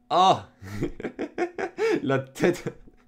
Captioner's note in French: Rires